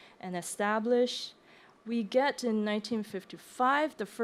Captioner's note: none